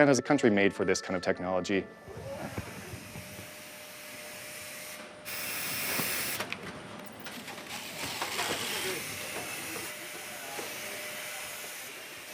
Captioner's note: humming of equipment